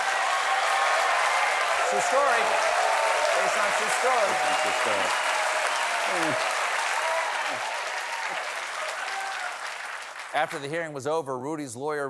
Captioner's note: cheers and applause